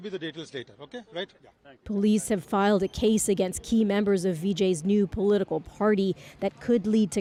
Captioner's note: speaking alternate language